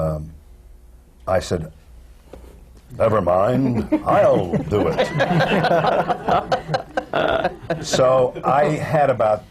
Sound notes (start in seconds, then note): 7.0 laughter